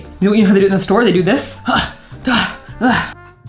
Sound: grunting

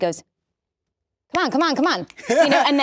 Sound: snaps fingers; laughs

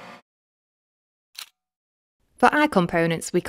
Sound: camera shutter clicking

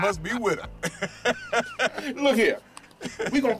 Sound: laughing

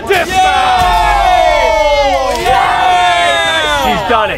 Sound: cheering

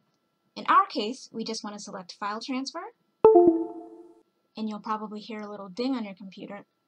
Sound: computer dings

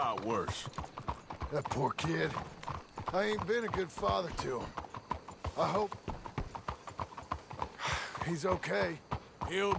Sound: sighs

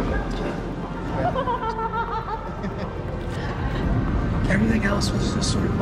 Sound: laughing

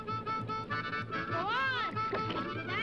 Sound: none

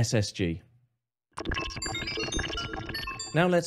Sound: robotic beeping

